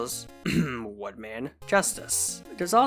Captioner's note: clears throat